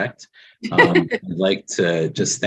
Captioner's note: people chuckling